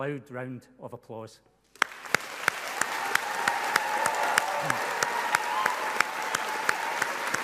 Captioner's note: people applauding and cheering loudly